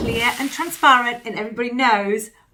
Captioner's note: whooshing sound